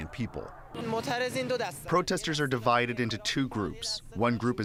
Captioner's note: through translator